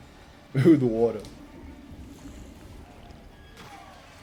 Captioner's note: water gurgling; soldiers scream; horserider screams